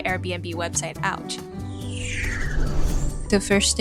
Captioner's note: whoosh transition